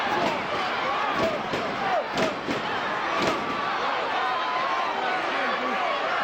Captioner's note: crowd chattering; stage clattering